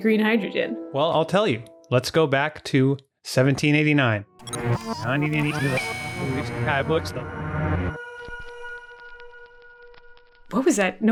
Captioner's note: tape rewinding sound effect